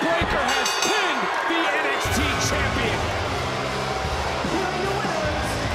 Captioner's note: bell rings